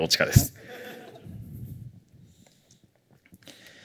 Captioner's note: laughter